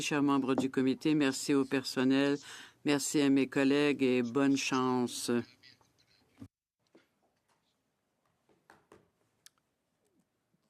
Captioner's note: speaking French